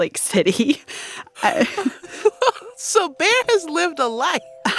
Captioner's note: laughter